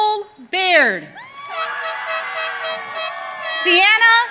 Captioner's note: audience cheering